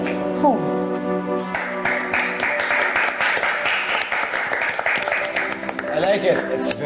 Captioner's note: applause